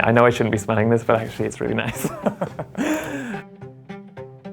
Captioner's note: laughs